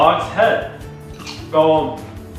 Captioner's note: crunch